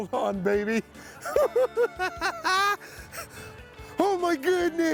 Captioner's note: laughing